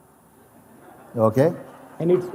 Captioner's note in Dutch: gelach